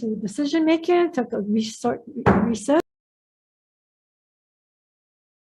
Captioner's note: gavel thudding